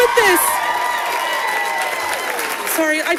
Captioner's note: audience applauding